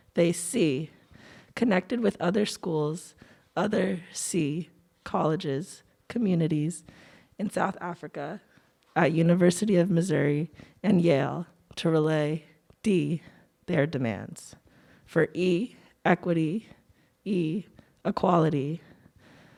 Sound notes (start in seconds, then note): none